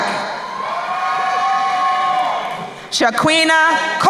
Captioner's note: crowd cheering